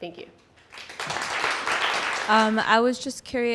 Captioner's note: audience applauding